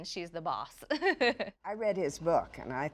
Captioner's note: laughs